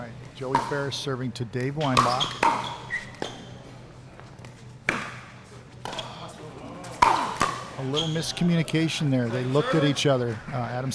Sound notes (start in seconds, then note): 1.7 shoes squeaking; 2.3 ball being hit